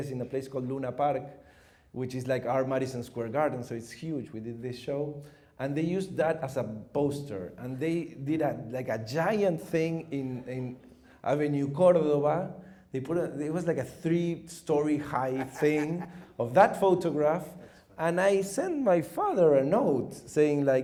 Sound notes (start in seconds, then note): 15.2 chuckles